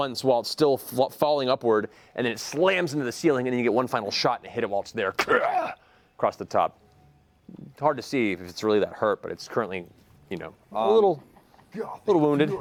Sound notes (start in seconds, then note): 5.2 grunts